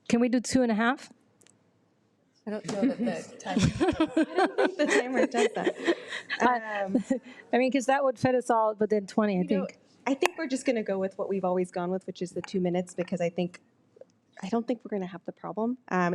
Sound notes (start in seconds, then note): 4.8 laughs